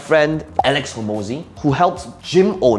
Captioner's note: bubble popping